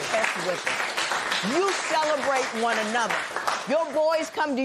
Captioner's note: applause